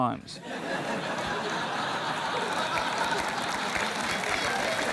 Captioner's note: laughter